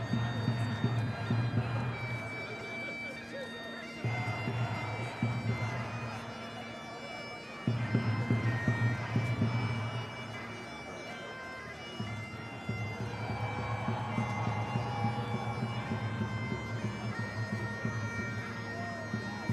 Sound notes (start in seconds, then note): 9.9 crowd continues chanting; 9.9 drums continue thumping; 13.5 crowd cheering